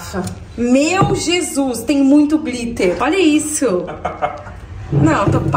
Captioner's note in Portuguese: risos